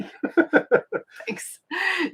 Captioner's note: laughing